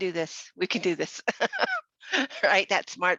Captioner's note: laughs